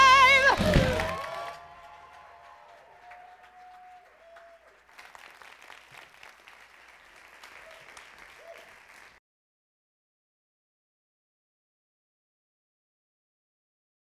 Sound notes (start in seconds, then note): 0.0 audience applauding